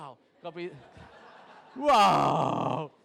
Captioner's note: crowd laughs